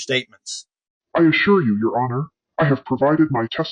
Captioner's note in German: verzerrt